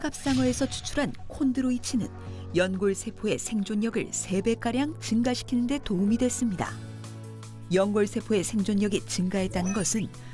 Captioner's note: voiceover